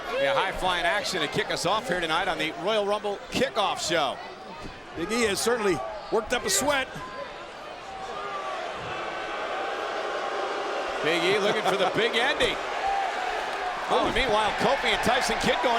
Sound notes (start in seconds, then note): 7.8 crowd boos